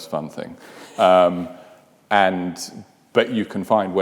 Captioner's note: laughs